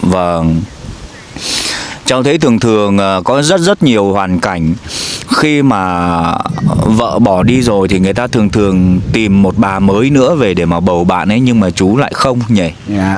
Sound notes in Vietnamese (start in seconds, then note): 4.8 khịt mũi